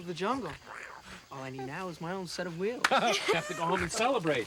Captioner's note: laughing